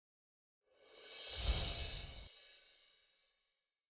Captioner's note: Copyrights whoosh and tingle